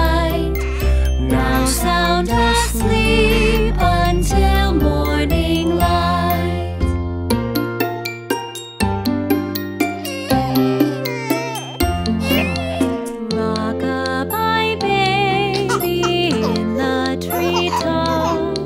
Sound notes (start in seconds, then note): 7.6 soft music; 9.8 baby cries